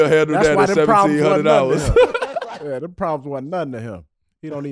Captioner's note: all laughing